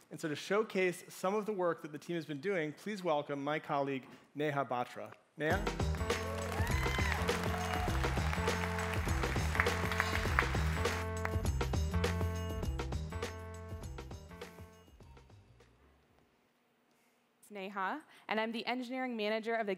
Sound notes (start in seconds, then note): 5.6 cheering, music playing